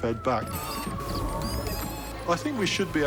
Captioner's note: robotic whirring